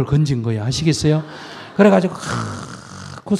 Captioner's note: audience Laughter